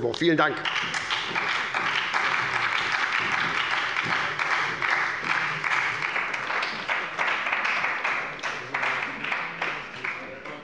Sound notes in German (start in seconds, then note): 1.8 Beifall bei der SPD